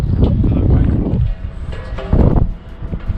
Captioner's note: wind blows